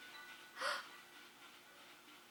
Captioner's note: gasp